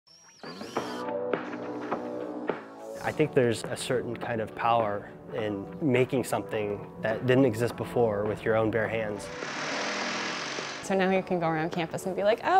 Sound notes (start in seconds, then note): 1.8 drill and saw; 9.3 drill